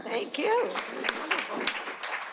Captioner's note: applause